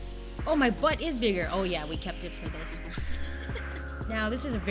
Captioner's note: laughs